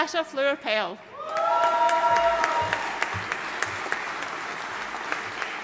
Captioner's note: audience cheering and applauding